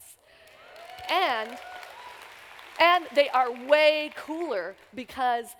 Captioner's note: applause